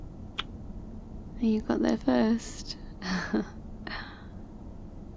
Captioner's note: sleepy laugh